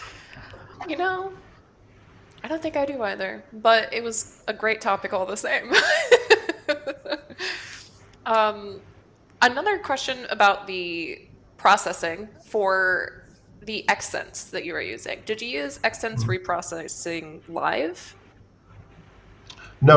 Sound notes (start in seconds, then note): 5.8 laughs